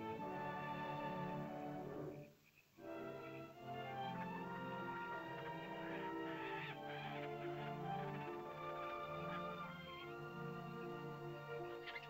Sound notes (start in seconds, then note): 0.0 soft whimsical music; 2.6 sentimental music; 3.6 animal chittering; 5.2 small animal squawks; 5.8 sentimental music; 11.4 small animal chitters; 11.8 sentimental music